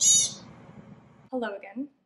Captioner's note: mimicking the vocalizing; pikas vocalizing